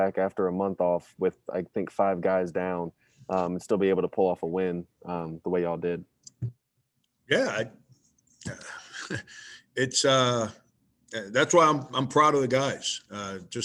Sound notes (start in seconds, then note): 6.5 cup thudding; 8.4 chuckles